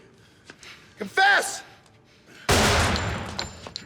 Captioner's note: gunshot